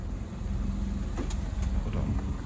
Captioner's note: car door opens